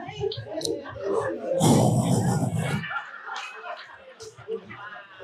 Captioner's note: heavy breathing